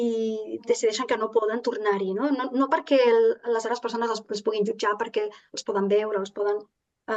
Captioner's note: continues speaking in Catalan